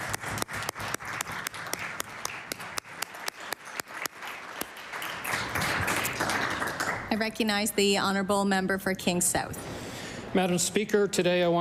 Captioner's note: applause